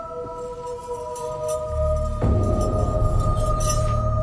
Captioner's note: sound of metal on metal